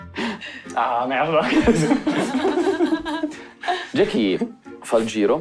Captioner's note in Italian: Risate